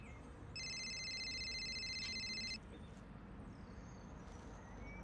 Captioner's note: cellphone ringing